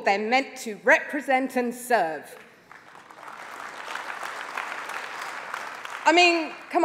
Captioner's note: applause